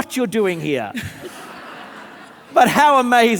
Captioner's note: audience laughing